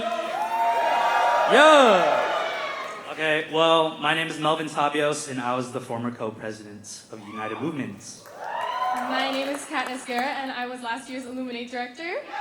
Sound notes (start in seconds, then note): 0.0 cheering; 7.2 cheering